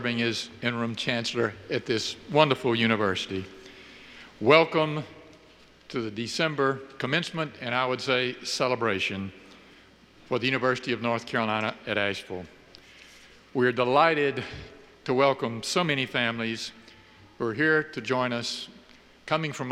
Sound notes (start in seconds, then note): none